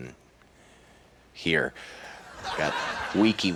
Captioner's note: audience laughs